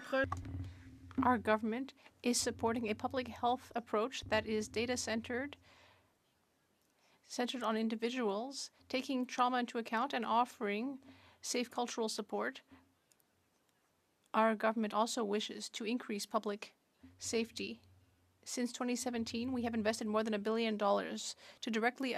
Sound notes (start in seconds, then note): 3.3 speaking French